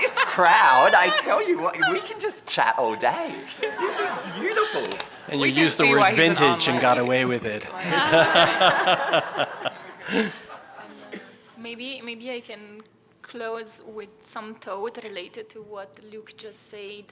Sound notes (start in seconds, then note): 3.4 laughter; 7.8 laughter